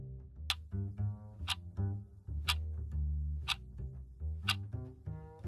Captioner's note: clock ticking